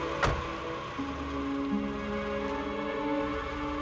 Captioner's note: engine starting; door closing